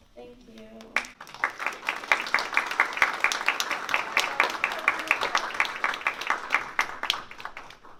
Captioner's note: applause